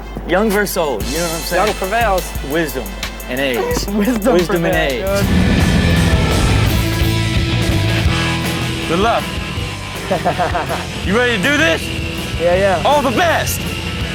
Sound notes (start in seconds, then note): 4.8 laughing; 5.8 intense music; 10.0 laughing